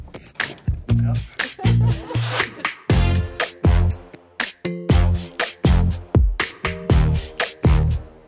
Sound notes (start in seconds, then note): 1.2 person laughs; 2.9 upbeat music